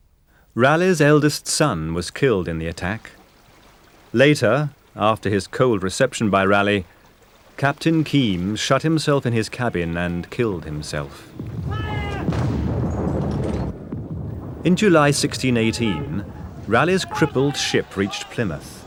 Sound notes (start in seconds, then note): 12.7 cannons firing